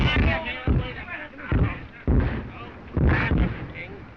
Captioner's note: all clamoring